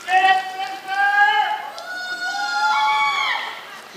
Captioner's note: applause